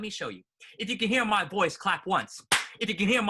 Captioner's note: clap; clap clap